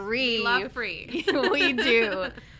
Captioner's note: laughs